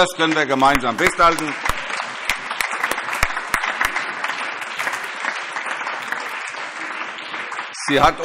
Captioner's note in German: Allgemeiner Beifall